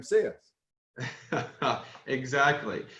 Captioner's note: laughs